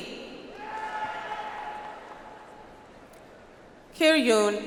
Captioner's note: audience applauds